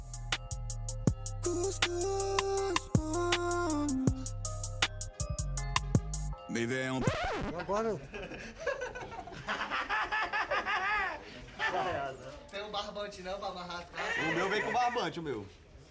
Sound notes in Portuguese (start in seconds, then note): 6.9 disco arranhando; 7.9 risada